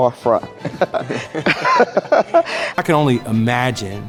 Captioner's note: laughing